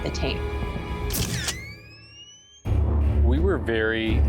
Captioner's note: camera shuttering